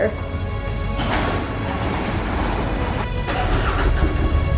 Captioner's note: garage door opens; dramatic music